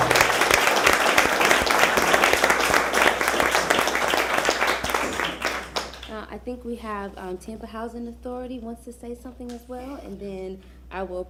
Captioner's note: applause